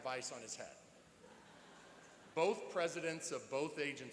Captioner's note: laughing